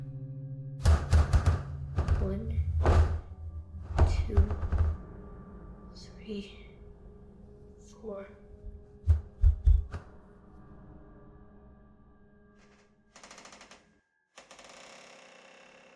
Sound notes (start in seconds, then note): 0.6 light sphere clattering; 2.6 light sphere thudding; 14.3 door creaking